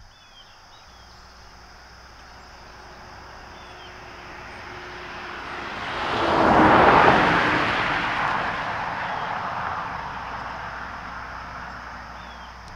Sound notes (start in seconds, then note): 3.2 birds chirping; 5.4 car zooming